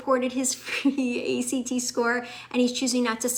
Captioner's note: chuckles